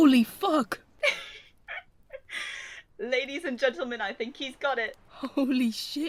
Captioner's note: Alice laughs